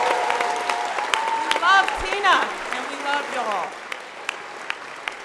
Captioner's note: applause